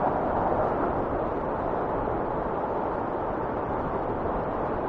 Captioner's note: wind whistling continues